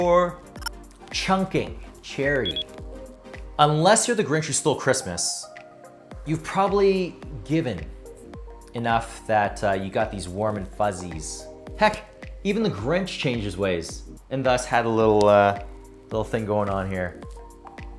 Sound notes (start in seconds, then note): 0.1 electronics chirping; 2.2 electronics beeping